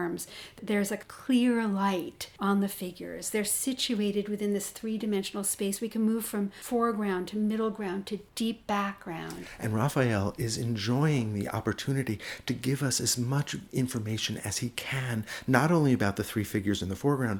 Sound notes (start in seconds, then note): 9.4 voiceover